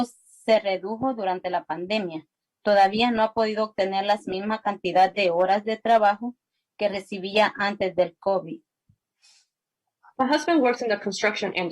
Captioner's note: spanish